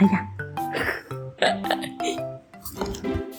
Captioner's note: laughing